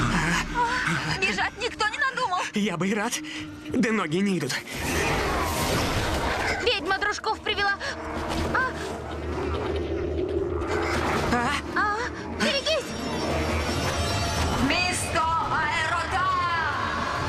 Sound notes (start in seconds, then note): 4.8 roars; 7.8 growling